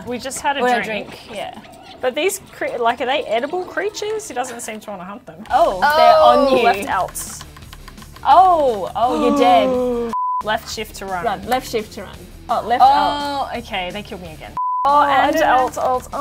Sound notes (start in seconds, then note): 9.1 gasps; 10.1 beep; 14.6 beep